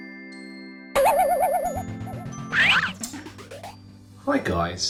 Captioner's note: gentle music; spring boinging